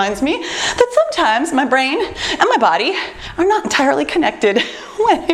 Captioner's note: laughs